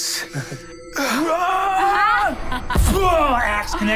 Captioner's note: grunts; imitates bursting